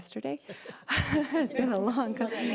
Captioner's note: laughing